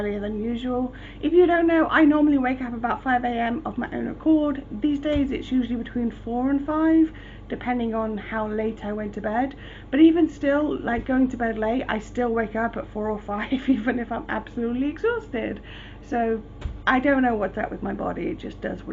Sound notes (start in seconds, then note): 13.4 laughing